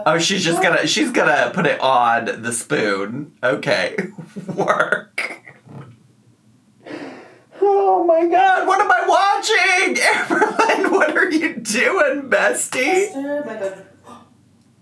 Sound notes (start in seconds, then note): 7.6 laughing